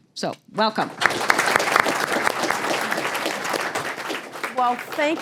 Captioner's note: applause